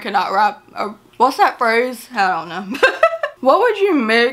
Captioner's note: laughs